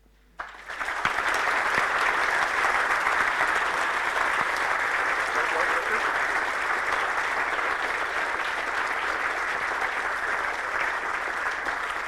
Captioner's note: applause